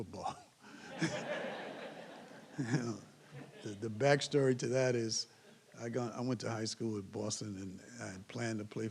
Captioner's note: laugh